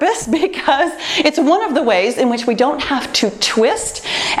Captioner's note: laughs